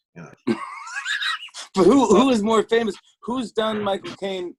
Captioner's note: laughs